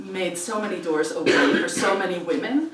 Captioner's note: cough